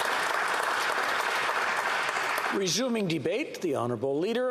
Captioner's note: applause